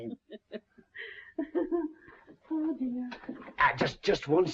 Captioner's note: laughs